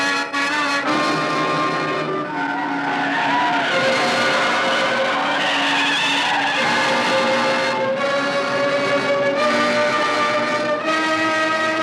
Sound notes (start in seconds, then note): 5.0 tires screeching